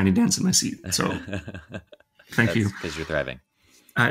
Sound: chuckling

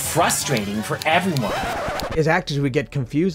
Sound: turntable needle scratches

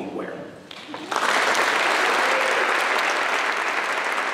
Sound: applause

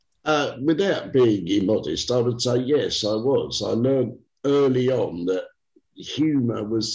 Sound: none

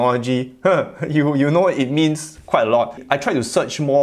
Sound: laughs

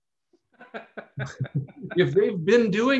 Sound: laughs

